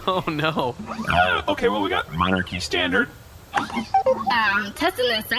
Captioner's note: dial beeps; southern